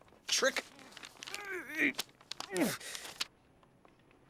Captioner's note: grunting